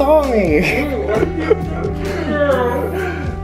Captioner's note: laughs; crying